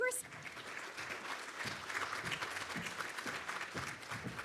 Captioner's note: audience clapping